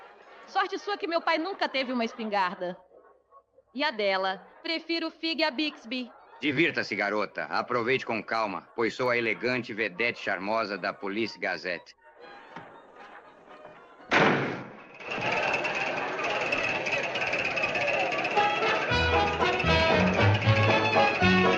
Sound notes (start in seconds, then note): 14.1 door slam; 14.9 people chattering; 18.8 jaunty music